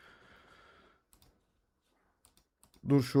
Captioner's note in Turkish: iç çeker